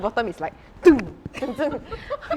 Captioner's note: stomps